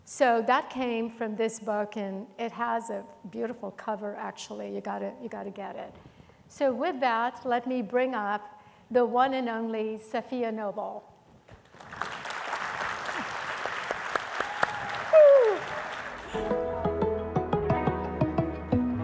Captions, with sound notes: So that came from this book, and it has a beautiful cover, actually. You gotta get it. So with that, let me bring up the one and only Sophia Noble. (audience clapping) Whoo! (soft music)